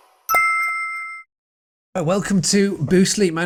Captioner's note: chiming music; chiming